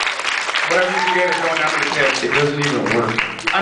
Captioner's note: applauds